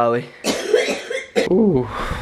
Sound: coughing

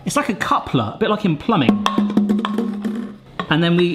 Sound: bottle clatters

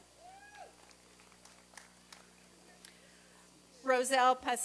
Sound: applause and cheering

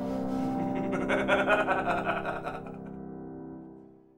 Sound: evil laugh

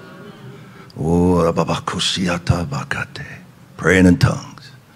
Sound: speaking in tongues

